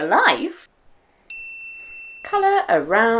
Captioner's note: ding